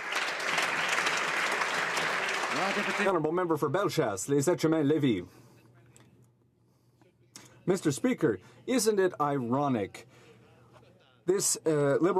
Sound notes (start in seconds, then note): 3.7 some Applause